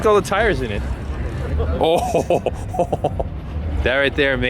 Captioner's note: laughing